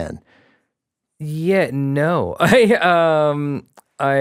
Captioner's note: chuckles